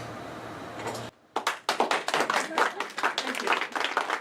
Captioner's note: applauding